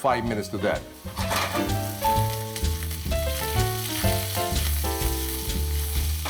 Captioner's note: oil sizzling; playful piano music